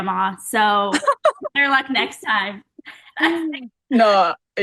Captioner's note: Paige laughing